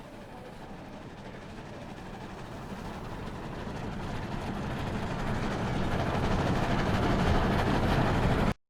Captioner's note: distorted train sound